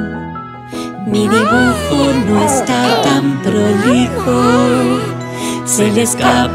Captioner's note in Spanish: Sonido de bebe